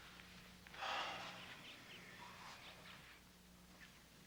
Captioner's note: Casey sighs